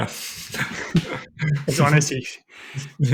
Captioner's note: laughs